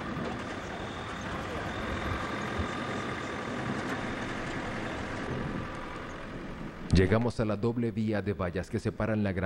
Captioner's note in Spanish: sonido automotor